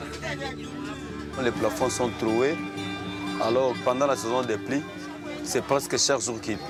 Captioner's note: foreign language